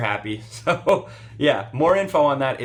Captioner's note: laughs